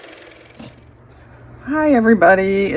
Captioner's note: car motor